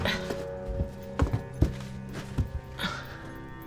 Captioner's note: Claire grunts; suspenseful music